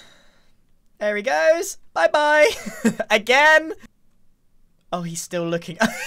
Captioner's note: laughs